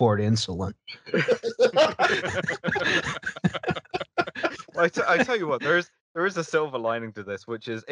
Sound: laughter

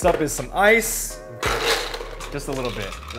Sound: ice crunching

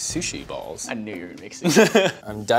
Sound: chuckles

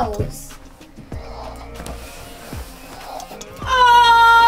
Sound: toy machine whirs

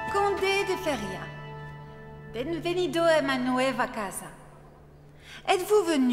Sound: Elizabeth speaks in a foreign language

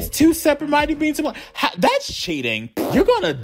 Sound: lip-trilling

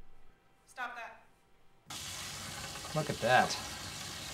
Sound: sizzling

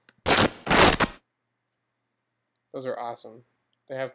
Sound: fabric rubbing and tearing

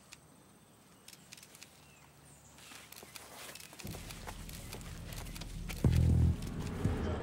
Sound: tank rumbling; tense music

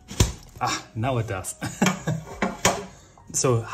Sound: laughs

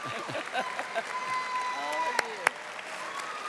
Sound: audience applauding and cheering

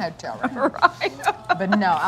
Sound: laughs

